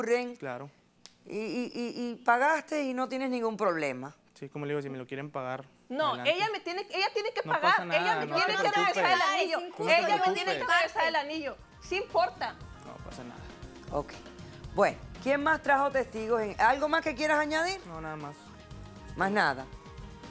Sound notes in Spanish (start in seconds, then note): 8.5 Hablan al unísono